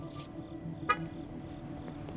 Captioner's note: car alarm activates